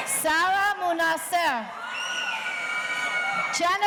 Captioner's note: audience cheering